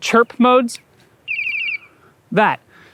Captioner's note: chirp sound